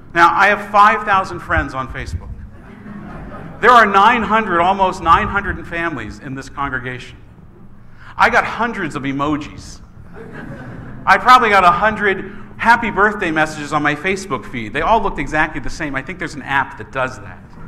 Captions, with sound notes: Now, I have 5,000 friends on Facebook. (laughing) There are 900, almost 900 families in this congregation. I got hundreds of emojis. (congregation laughs) I probably got a hundred "Happy Birthday" messages on my Facebook feed. They all look exactly the same. I think there's an app that does that.